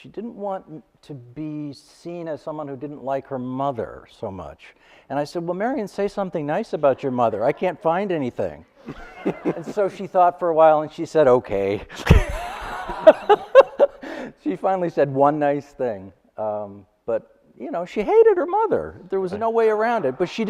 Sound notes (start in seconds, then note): 12.0 laughing